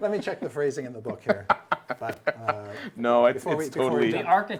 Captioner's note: all chattering